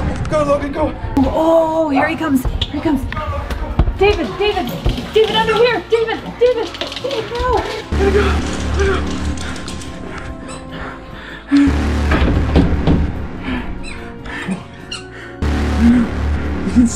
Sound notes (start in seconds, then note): 12.0 door closes